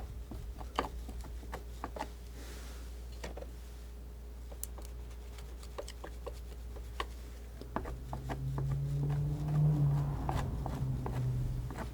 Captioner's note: scraping